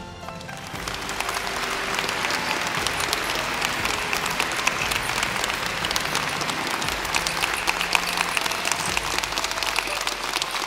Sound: applause

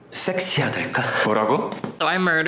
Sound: speaking Korean

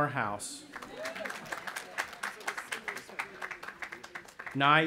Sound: audience applauding

